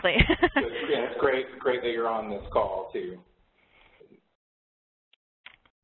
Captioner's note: laughs